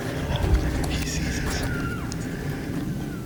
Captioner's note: caller cow calling